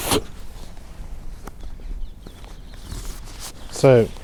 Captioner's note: breath